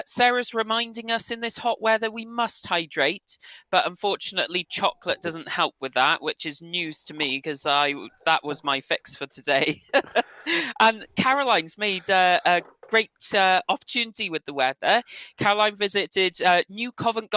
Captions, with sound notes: Sarah is reminding us in this hot weather we must hydrate. But unfortunately, chocolate doesn't help with that, which is news to me, because that was my fix for today. [LAUGHS] And Caroline's made a great opportunity with the weather. Caroline visited New Covent